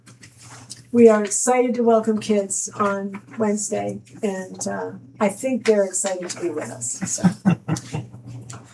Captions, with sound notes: We are excited to welcome kids on Wednesday and I think they're excited to be with us. (laughing)